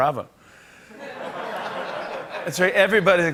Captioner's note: laughter